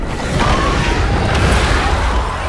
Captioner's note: screaming